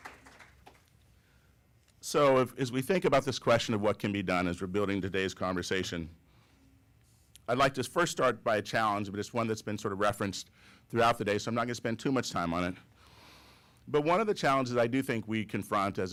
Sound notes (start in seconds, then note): 1.9 applause